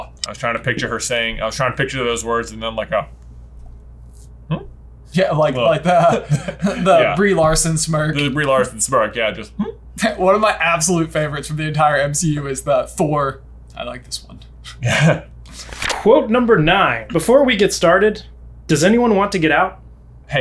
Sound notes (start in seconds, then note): 5.8 laughs